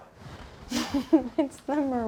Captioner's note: laughs